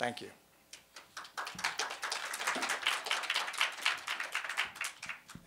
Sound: audience clapping

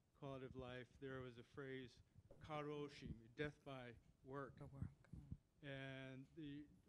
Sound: japanese

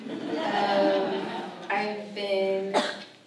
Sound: audience laughs

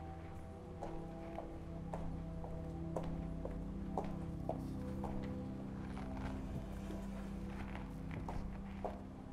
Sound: footsteps

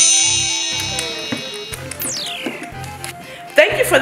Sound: wand chimes; munches lightly

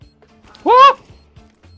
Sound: manly scream

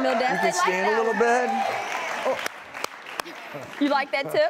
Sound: claps

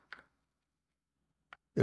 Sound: silence

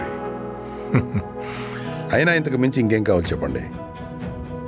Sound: Reddy chuckles

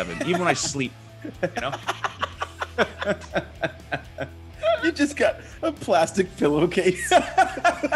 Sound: laugh; laugh

